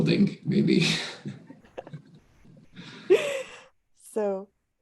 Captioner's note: chuckles